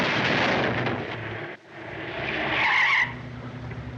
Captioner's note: tires Screeching